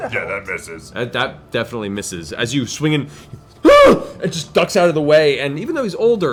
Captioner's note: nervous yell